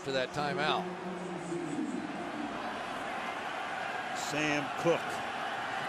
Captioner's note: pa announcement